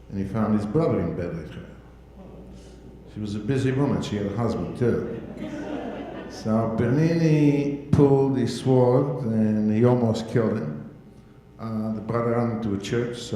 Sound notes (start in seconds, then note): 4.6 audience laughing